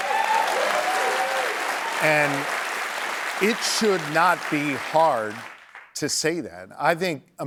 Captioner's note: applause